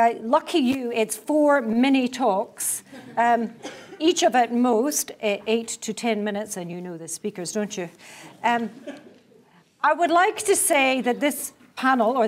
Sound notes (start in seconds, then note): 2.8 laugh; 3.5 cough; 8.7 laugh